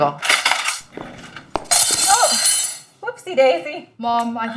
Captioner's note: cutlery rattling; cutlery clattering